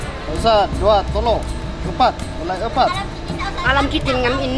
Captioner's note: man speaking in foreign language; woman speaking in foreign language